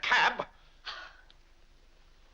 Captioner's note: Vinnie huffs